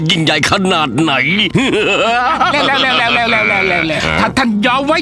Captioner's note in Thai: หัวเราะ